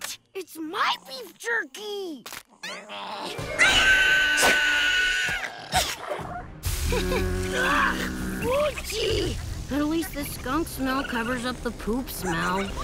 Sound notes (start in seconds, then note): 2.6 shrieking